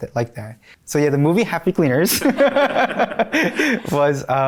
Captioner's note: laughing